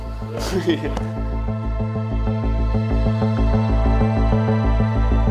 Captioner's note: chuckles